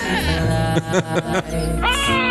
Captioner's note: laughs; screams